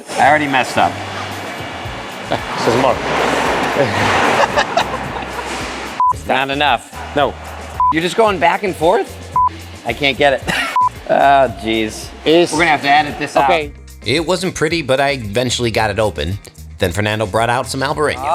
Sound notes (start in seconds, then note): 3.5 laughs; 6.0 beep; 7.8 beep; 9.5 beep